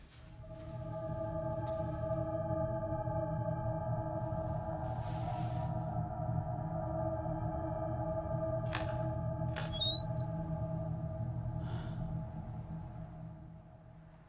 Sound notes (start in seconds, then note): 0.1 suspenseful music; 9.6 door squeaking; 11.6 Phil sighs